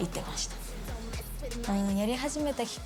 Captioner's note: speaking in foreign language